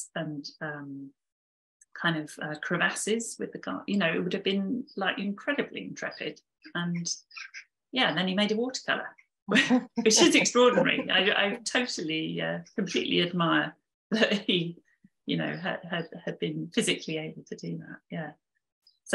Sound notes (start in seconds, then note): 10.7 both chuckling